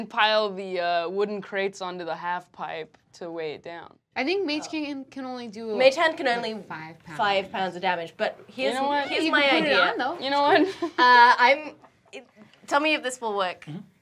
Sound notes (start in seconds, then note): 11.0 chuckles